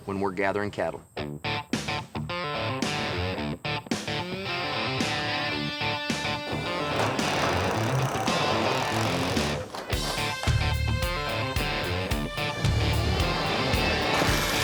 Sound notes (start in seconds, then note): 5.8 drilling